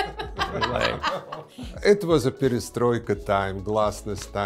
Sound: laughs

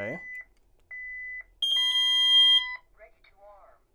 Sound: keypad beeps

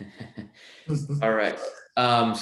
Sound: laughing

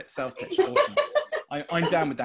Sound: laughing

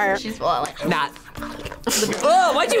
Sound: slurps

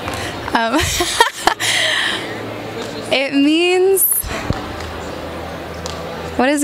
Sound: laughs

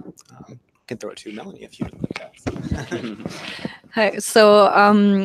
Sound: laughs

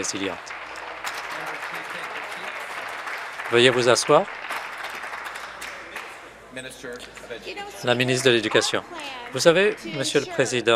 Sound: applause

